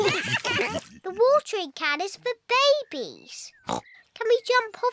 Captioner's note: all laugh; oinks